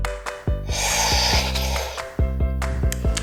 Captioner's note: slurping; lips smacking